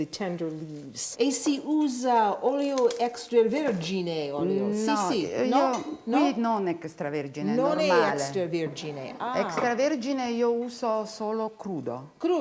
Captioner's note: speaking Italian